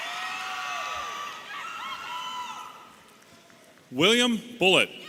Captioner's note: audience cheering